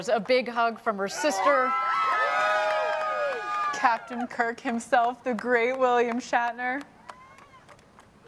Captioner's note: cheering